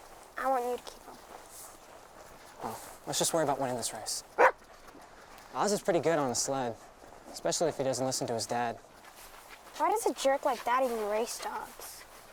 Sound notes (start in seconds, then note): 4.3 Buck barks